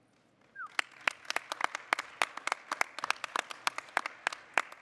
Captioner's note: audience applauding